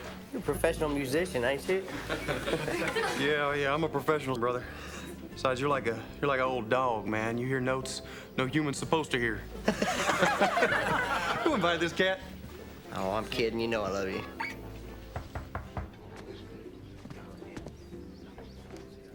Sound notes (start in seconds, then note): 1.8 laughing; 9.6 laughing; 15.0 knocking on door